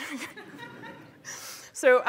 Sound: laughter; laughs

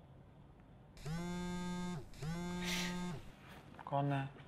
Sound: phone vibrates

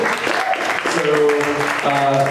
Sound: applause

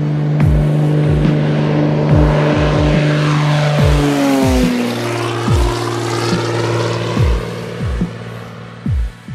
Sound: sound of Beechcraft Bonanza for sale taking off

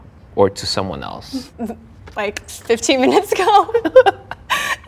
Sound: laughs

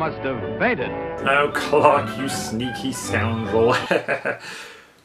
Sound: chuckles

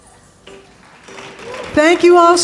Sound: audience clapping

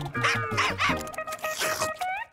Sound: barking

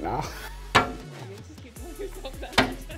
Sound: laughing

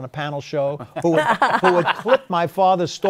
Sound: laughs

